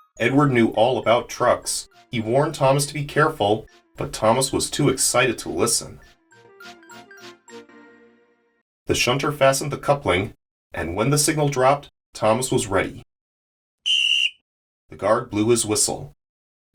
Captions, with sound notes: Edward knew all about trucks. He warned Thomas to be careful, but Thomas was too excited to listen. The shutter fastened the coupling, and, when the signal dropped, Thomas was ready. (Guard’s Whistle) The guard blew his whistle.